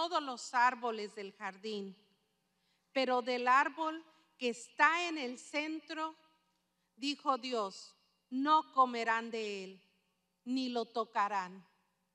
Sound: speaking spanish

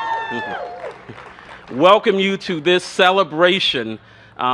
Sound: cheers and applause

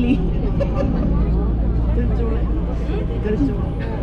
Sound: more laughing

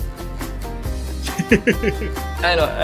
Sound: laughs

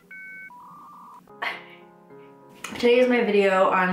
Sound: modem connecting noise

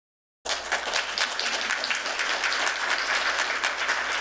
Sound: applause

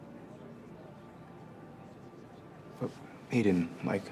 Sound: none

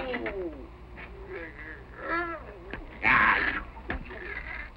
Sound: grunting

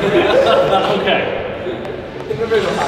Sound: group laughing

